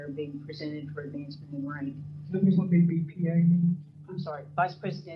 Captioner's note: speaker off microphone